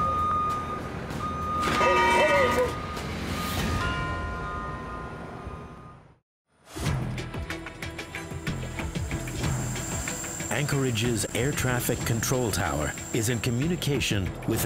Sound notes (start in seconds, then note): 3.0 metal clanging; 6.8 suspenseful orchestral music